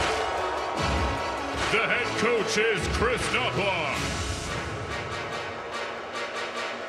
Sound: crowd noise

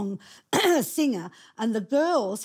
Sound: clearing throat

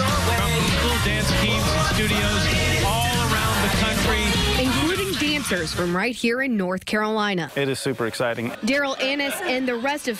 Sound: cheers and applause

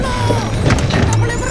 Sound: objects falling

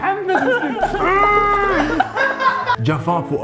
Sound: moans

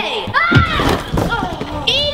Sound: screams

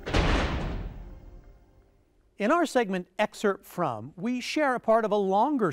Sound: vault closing

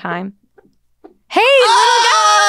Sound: farting noise

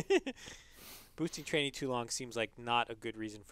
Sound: laugh

